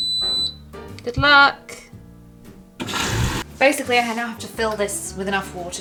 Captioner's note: washing machine beeps